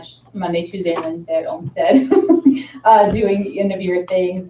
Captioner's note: laughs